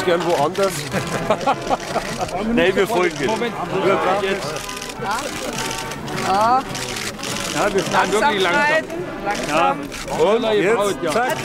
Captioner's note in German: Applaus